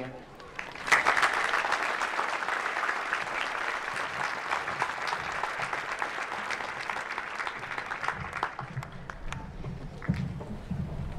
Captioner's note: applause